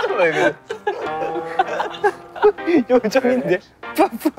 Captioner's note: unable to hold the laughter